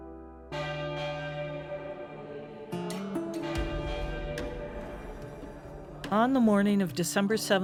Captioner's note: church bells clanging; choir vocalizing